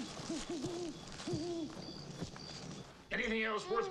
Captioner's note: leaves rustling; owl hooting